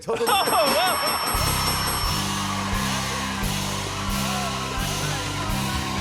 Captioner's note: cheers and applause